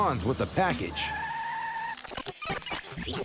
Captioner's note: tires screeching